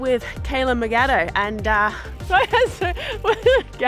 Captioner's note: laughs